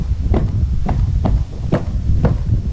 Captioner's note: footsteps